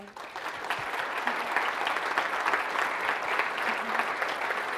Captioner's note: audience applauding